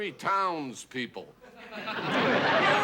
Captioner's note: laughter